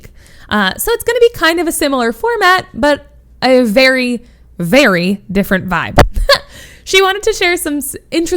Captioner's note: laughs